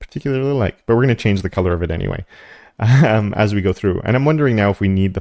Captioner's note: laugh